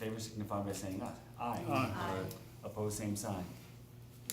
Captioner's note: chorus of ayes